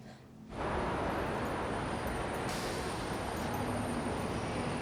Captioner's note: sounds of Brooklyn traffic